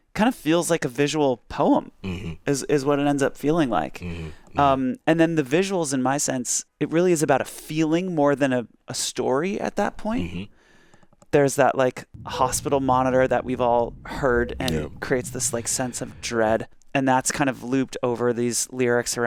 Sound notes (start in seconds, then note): 12.8 monitor beeping